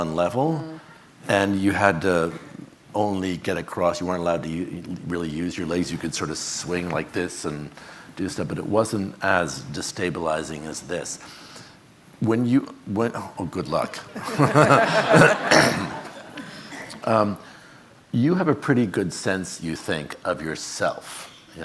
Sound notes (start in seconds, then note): 14.1 audience laughing